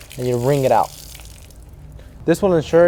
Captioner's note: water spilling